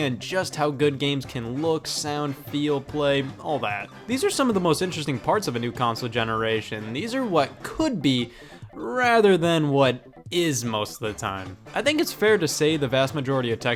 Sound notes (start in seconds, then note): none